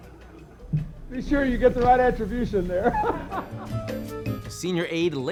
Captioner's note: laughs